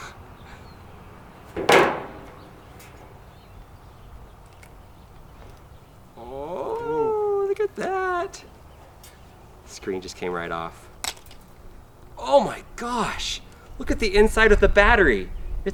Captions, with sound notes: (banging) Ooh, look at that! Screen just came right off. Oh my gosh, look at the inside of the battery!